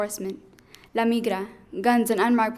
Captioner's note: speaking in foreign language